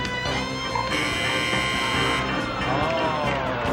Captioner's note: buzzer